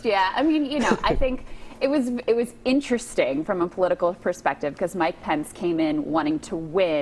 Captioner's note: laughter